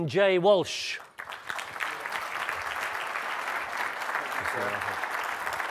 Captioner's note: audience applaud